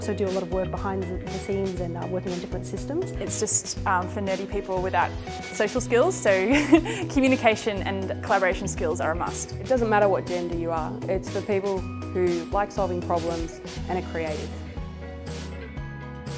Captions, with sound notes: but you can also do a lot of work behind the scenes working on different systems It's just for nerdy people without social skills (laughs) so communication and collaboration skills are a must. It doesn't matter what gender you are it's for people who like solving problems and are creative.